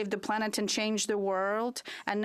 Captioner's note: speaking French